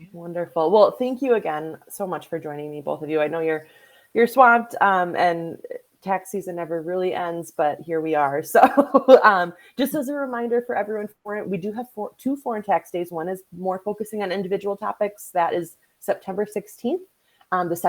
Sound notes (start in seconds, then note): 8.7 laughs